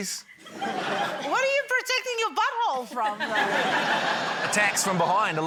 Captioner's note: laughter